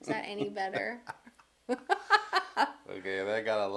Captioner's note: laughing